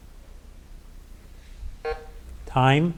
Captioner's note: button buzzing